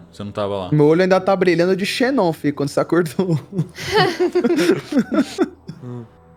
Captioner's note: laughs